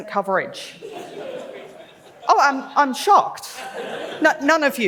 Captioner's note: laughs; laughs